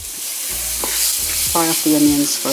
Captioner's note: sizzling oil